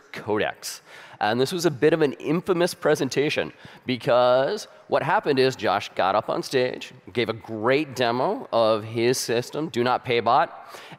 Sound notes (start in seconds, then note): none